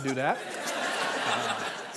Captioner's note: audience laughing